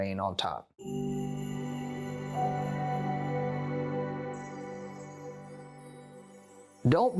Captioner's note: chime Sound